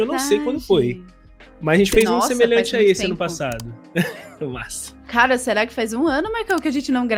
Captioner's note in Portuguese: risos